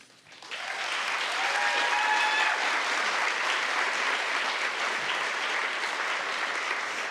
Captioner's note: applause, cheering